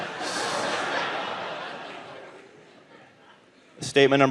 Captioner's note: audience laughing